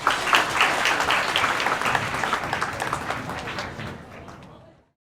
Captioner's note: applause